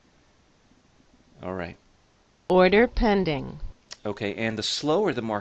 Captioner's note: order pending sound is played